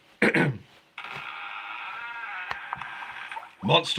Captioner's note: door squeaking